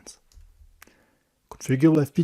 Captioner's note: breathe